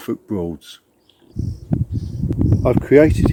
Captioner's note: birds tweeting